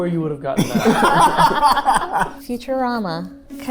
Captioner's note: group laughing